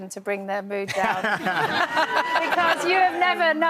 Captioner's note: laughing